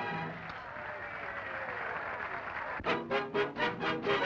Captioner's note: audience applauding and cheering; upbeat music